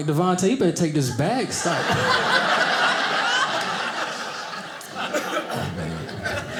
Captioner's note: audience laughing